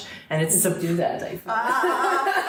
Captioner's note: laughing